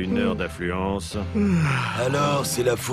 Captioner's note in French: baillement